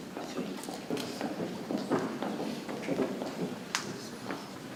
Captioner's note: people chattering softly